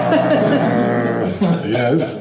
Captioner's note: brrrrrrrrr